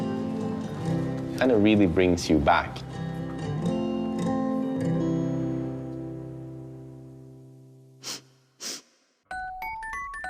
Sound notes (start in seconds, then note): 8.6 sniffing